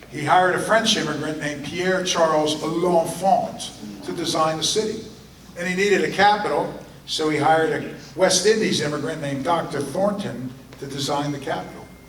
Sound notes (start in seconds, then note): none